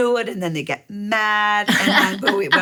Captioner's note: laughing